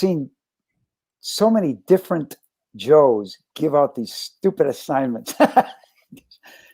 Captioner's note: laughter